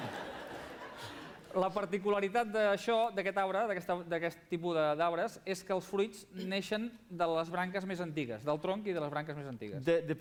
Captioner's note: non-english speech